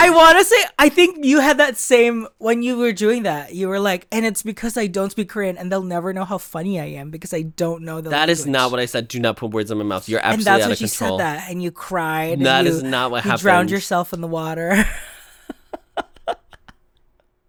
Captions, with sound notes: I want to say I think you had that same, when you were doing that. You were like, "And it's because I don't speak Korean and they'll never know how funny I am because I don't know the-" That is not what I said. Do not put words in my mouth. You're absolutely out of control. You said that and you cried. That is not what happened. You drowned yourself in the water. [Laughs]